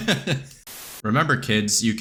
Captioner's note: laughs; static